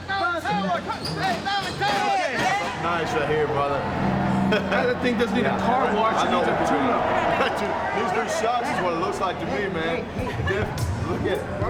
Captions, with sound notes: (group cheering) Nice they're here, brother. That thing doesn't need a car wash, it needs a tune-up. Needs new shocks is what it looks like to me, man.